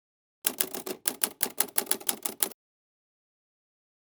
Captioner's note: typing